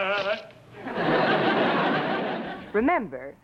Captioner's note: laughs